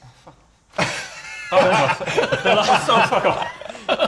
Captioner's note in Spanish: Risas